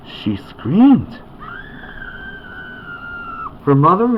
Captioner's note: Camilla screams